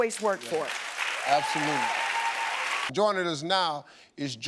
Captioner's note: audience applauding